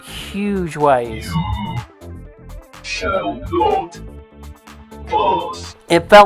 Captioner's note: synthesized voice